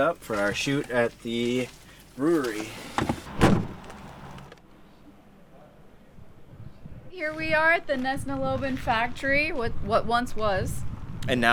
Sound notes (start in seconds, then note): 2.9 door thuds